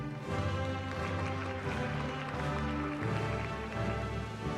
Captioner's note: applause